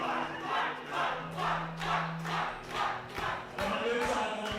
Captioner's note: crowd